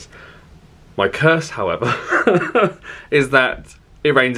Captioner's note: chuckles